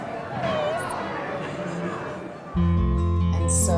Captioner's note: chuckling